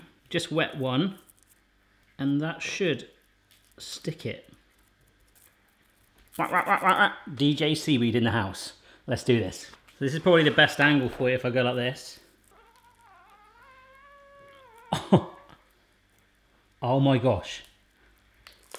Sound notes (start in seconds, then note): 12.4 squeaking; 14.4 laughing